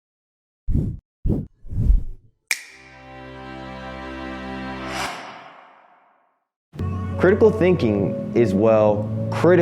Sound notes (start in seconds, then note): 1.6 air whooshing; 3.1 relaxing music; 6.8 bright music